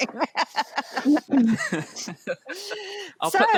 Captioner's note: laughs